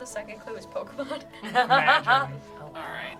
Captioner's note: laughs